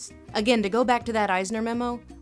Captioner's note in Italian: voce fuori campo